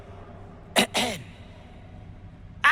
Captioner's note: clears throat